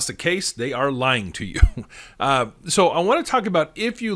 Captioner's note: chuckles